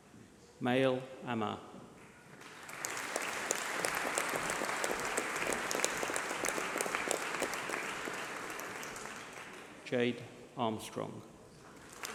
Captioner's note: applause